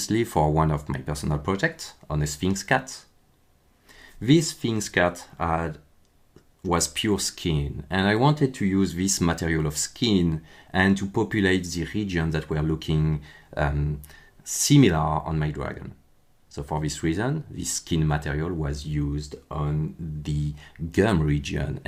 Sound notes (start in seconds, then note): none